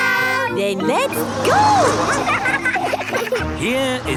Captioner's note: laughing